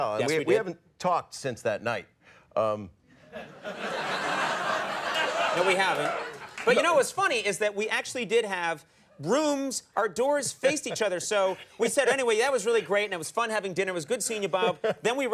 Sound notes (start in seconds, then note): 3.3 audience laughs